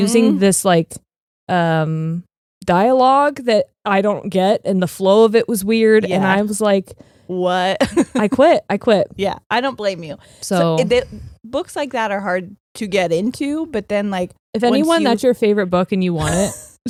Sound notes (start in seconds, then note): 7.8 laughing